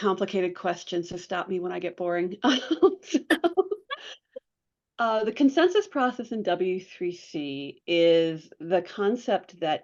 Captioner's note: laughs